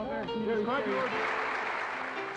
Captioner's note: audience applauding